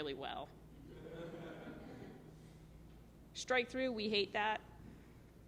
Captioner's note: laughter